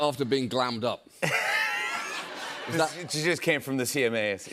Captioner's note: laughter